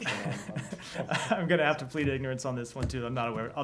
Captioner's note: laughter